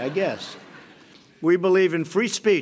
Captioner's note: laughter